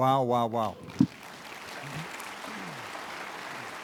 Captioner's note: applause